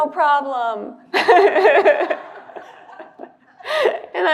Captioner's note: laughter